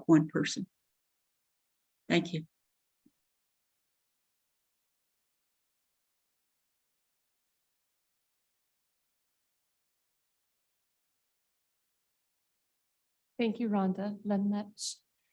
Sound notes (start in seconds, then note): 10.4 speaking in indigenous language